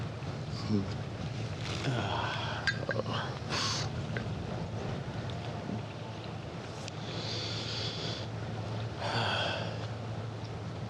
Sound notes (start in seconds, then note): 3.7 sniffs; 6.5 light music